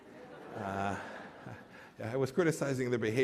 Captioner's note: laughter